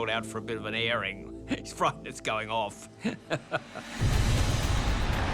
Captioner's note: laughs